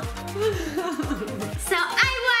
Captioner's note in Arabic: يضحك